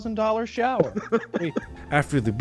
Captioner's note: all laughing